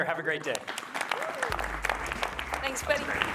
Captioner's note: applause